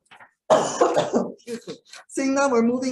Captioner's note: coughs